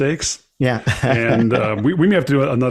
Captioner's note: laughs